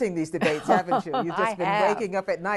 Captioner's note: laughter